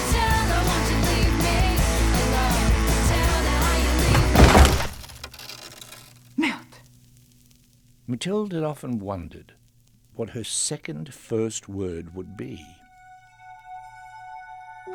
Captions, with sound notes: (crash) S***! Mathilde had often wondered what her second first word would be.